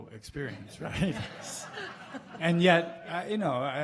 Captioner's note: laughing